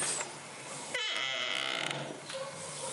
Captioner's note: door squeaking